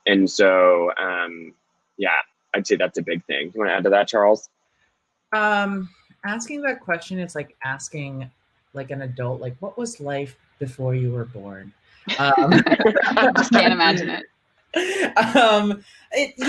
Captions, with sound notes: So yeah, I'd say that's a big thing. Wanna add to that, Charles? - Asking that question is like asking an adult, what was life before you were born? (panel laughing) - I just can't imagine it.